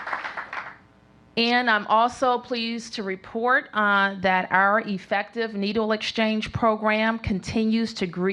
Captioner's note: applause